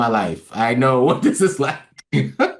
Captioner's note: laugh